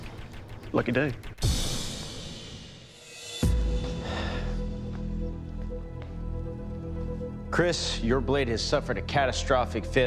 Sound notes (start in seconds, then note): 3.8 sigh; 4.0 dramatic music